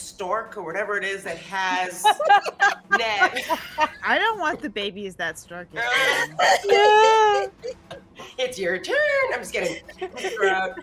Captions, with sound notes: or whatever it is that has, 'Neb. (characters laugh) - I don't want the baby that (speaks faintly). (characters laugh) - It's your turn. I'm just kidding.